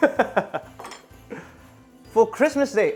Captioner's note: laughs